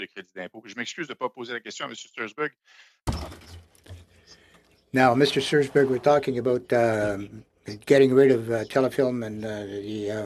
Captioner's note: speaking French